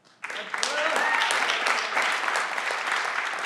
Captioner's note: everyone claps